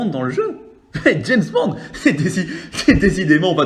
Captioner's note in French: rire